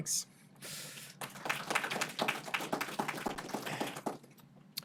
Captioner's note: audience applauding